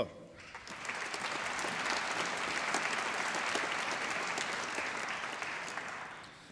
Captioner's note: applause